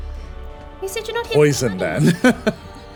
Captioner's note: laughing